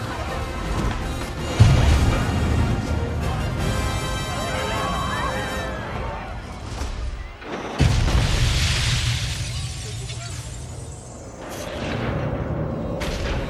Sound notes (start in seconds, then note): 7.4 explosion